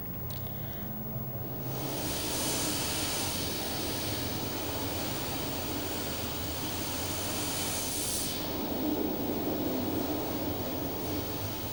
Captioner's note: blows into the microphone